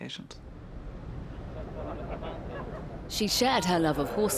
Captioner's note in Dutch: mensen kletsen